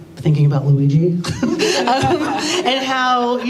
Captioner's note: laughter